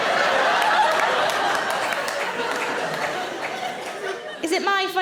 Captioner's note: audience laughs